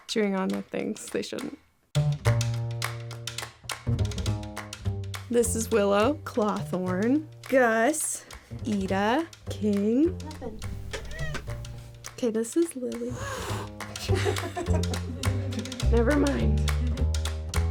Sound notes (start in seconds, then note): 2.1 playful upbeat music; 13.5 Lily hissing